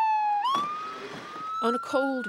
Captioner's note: siren wails